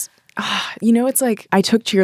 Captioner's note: sighs